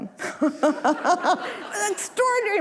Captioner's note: audience laughing